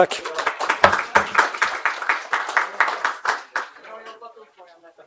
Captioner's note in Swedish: Applåder